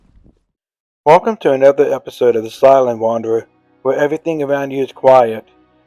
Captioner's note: voiceover